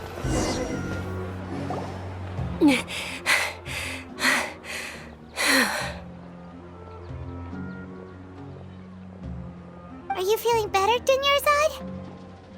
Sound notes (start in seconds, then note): 2.6 pant